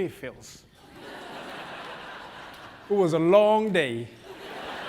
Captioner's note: laugh